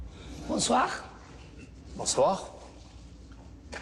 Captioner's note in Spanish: Hablan en otro idioma